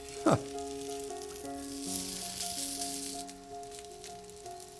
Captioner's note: sizzling; laughs